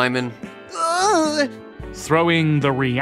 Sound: nerdy whimpering

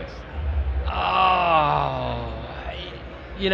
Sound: groans

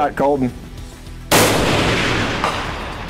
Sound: gunshot

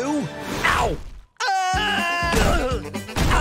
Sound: screaming; groaning

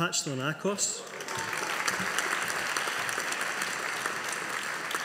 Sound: audience applauding

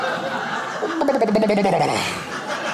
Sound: crowd laughs; gurgles; crowd laughs

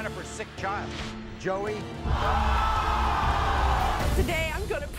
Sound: audience cheers

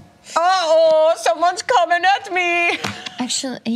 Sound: imitates German accent

